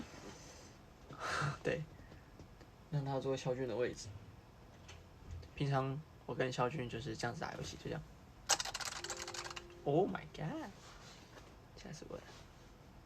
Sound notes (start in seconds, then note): 8.5 aggressive clickity clacking